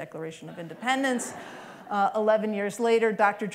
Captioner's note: laughter